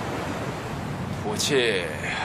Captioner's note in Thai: หายใจออก